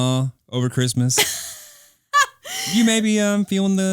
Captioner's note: laughing